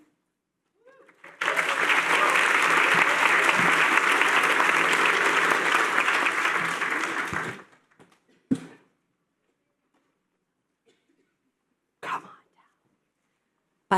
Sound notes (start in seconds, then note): 2.6 applause